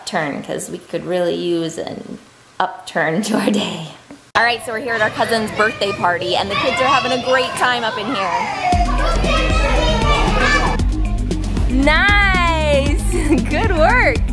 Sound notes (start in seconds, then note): 8.4 kids yelling; 8.7 upbeat music